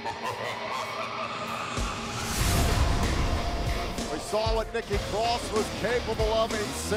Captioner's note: evil laughter